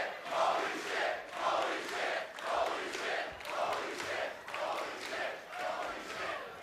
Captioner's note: fans chanting